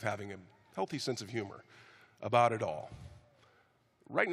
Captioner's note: none